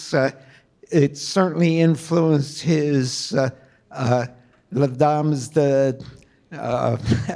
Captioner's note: chuckles